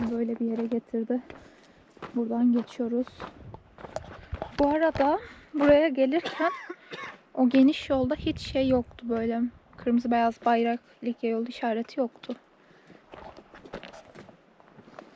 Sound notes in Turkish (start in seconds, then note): 6.8 boğazını temizler